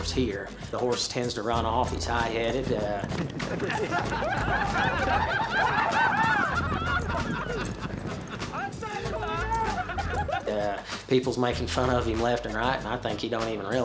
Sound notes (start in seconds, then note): 4.1 all cowboys laughing